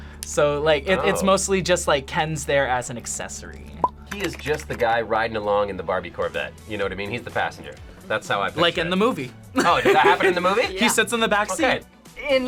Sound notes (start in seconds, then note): 9.5 laughs